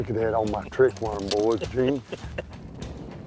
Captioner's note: laughs